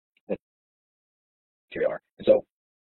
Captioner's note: audio distorts